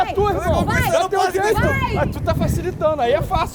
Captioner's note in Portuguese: gritando